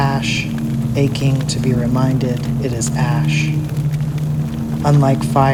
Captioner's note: sound of a forest on fire